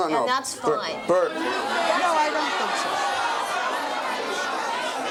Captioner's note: audience chatters